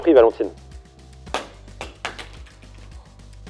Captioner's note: drop noise